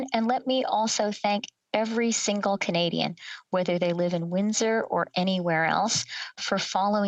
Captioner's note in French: voix de l'interprète